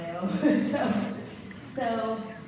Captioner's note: laughs